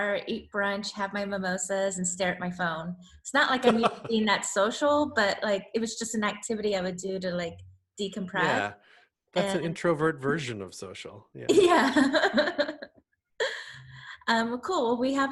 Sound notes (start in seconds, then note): 3.6 laughs; 11.3 laughs